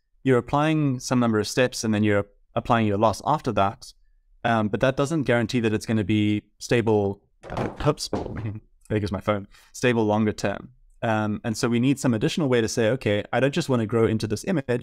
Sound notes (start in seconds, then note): 7.4 noise of something falling